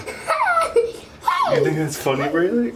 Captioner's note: hooting